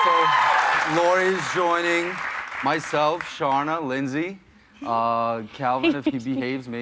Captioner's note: cheers and applause